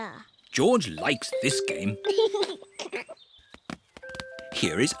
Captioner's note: giggles